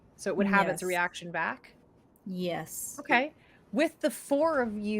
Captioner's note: none